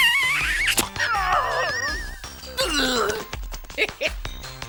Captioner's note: kissing; groaning; chuckling